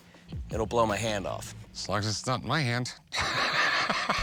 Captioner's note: laughs